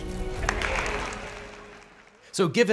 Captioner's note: crowd clapping